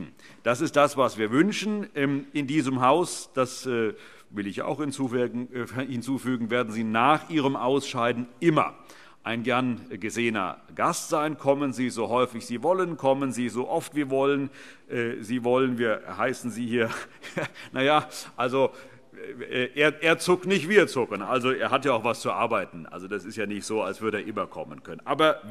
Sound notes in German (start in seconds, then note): 17.3 Heiterkeit und Zurufe